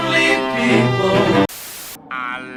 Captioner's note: TV Static